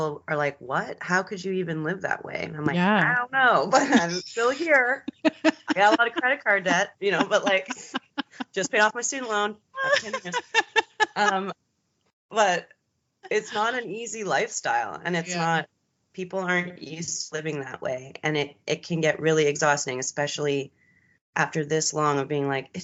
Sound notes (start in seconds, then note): 3.8 giggling; 5.0 both laughing; 9.8 both laughing